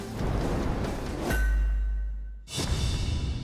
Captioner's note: clanging